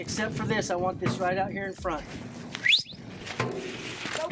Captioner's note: whistles